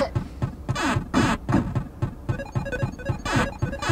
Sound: beeping

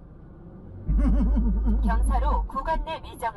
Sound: laughing

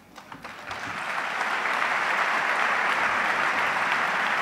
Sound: audience applauds

